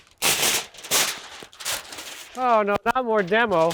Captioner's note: paper crunching